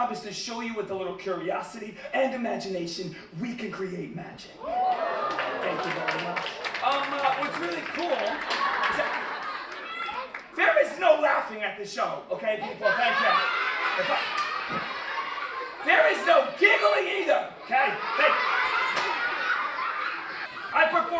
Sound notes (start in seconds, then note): 4.9 applause; 7.9 laughter; 12.6 children giggling; 17.6 laughter